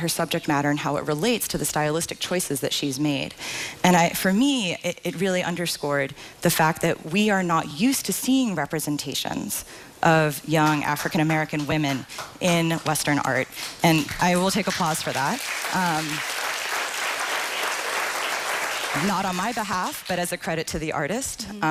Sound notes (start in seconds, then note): 20.4 applause